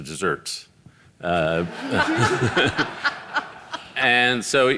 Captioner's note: audience laughing